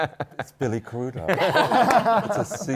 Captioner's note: laughter